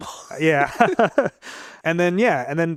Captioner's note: both laugh